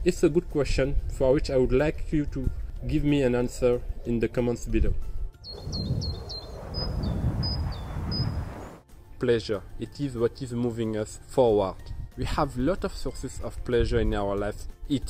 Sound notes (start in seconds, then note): 5.4 birds singing; 5.5 plane whooshing